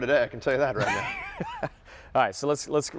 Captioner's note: laughing